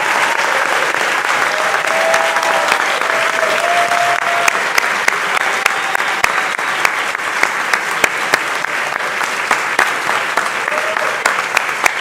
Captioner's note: cheers and applause